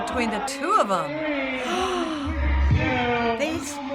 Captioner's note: gasping